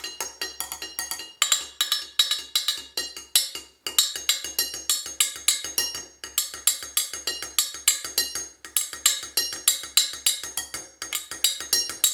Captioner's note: sounds vary as different parts of the pot are struck